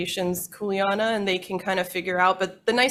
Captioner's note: speaking in foreign language